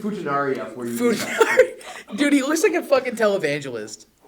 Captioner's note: laughs